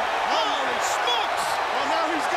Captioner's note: crowd cheering